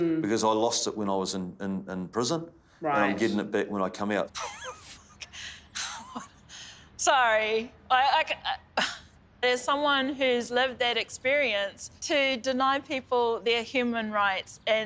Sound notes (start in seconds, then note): 4.4 laughs